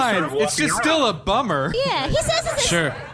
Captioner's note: audience laughter